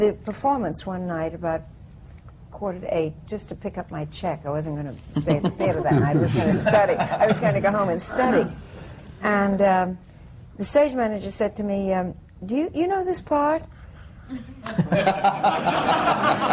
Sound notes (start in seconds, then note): 5.1 laughter; 14.3 laughter